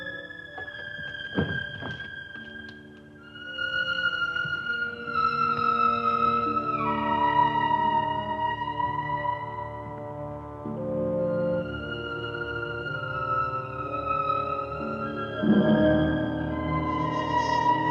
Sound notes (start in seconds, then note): 1.2 door thuds; 7.7 mysterious music continues